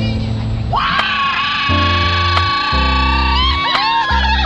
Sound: shrieks

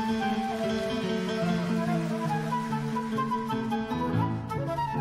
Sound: audience applauds; orchestral jazz music

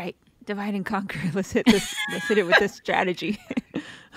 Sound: laughs

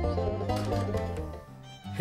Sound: door opens

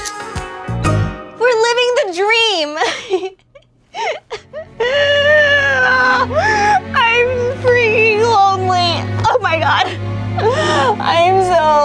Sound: crying; more crying

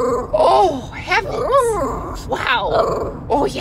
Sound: roar; grumble

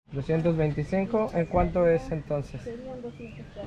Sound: spanish talking

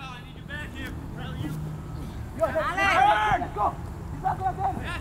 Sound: players talking and yelling

